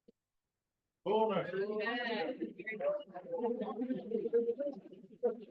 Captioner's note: audience chattering